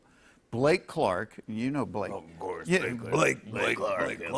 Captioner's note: deep voice